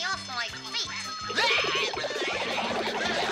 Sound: game ringing

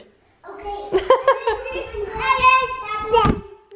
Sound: laughing

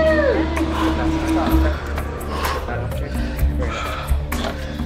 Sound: cheering; heavy breathing

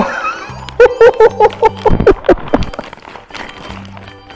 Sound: laughs

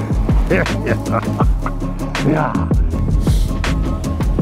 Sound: chuckles

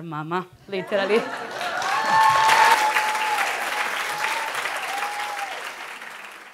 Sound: audience cheering and clapping

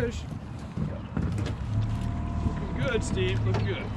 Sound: boat engine idling

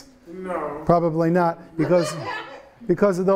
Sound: students laughing

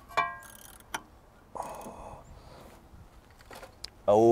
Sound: wrench cranks

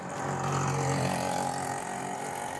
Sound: vehicle passing

